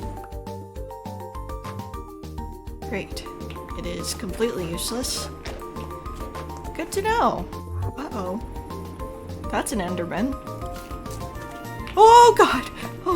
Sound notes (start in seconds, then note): 7.6 enderman blip